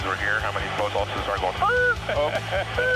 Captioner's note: brake sound; laughing